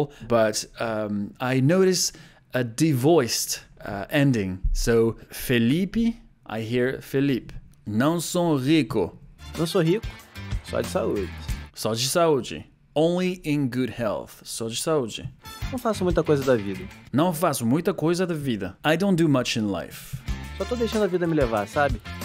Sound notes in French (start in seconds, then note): 7.8 répète la phrase en portugais; 11.7 répète la phrase en portugais; 12.9 lit la traduction en anglais; 17.0 répète la phrase en portugais; 18.7 lit la traduction en anglais